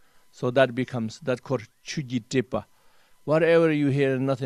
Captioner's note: tibetan